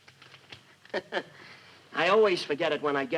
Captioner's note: laughing